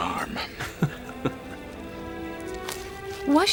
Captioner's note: Háma chuckles